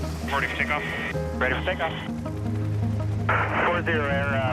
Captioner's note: radio chattering